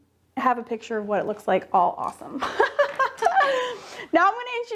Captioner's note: laughs